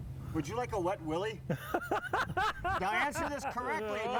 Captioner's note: laughing